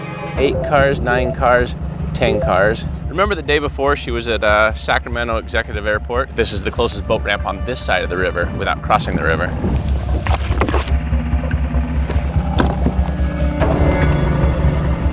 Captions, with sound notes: Eight cars. Nine cars. 10 cars. Remember, the day before she was at Sacramento Executive Airport. This is the closest boat ramp on this side of the river without crossing the river. (water splashing) (motor boat whirring)